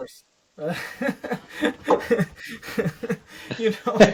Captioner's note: laughter